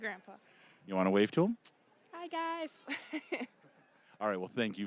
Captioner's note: laughing